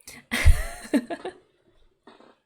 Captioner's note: laughs